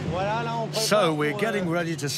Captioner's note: speaking in foreign language